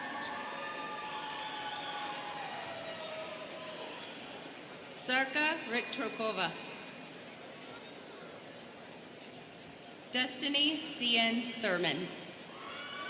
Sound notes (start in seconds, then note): 0.0 students cheering; 8.6 students chattering